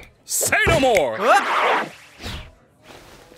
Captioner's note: yelps